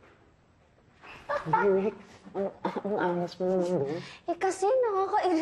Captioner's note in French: laughs